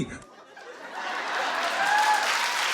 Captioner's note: audience laughs; audience applauds